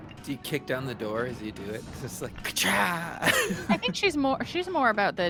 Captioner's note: laughs